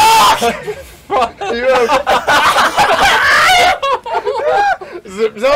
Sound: all of them except laugh

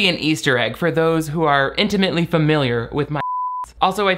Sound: beep

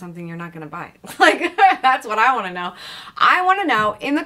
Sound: chuckles

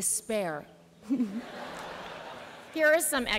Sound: laughter

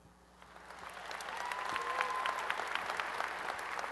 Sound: applause and cheering

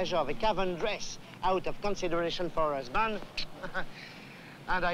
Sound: chuckles

